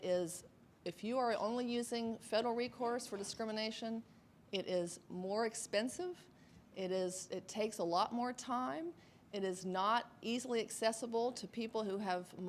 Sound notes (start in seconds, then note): none